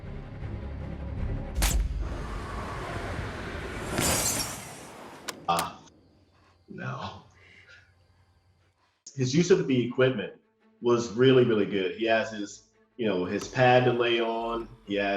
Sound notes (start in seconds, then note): 1.6 rifle shot; 3.9 window shatters